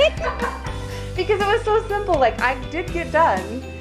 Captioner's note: laughs